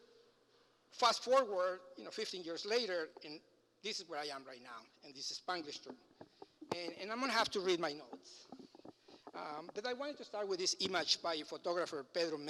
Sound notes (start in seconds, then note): 5.6 foreign language